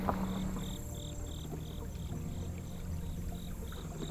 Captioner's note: insects chirping